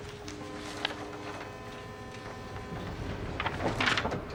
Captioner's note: ship's horn blaring; elevator door closing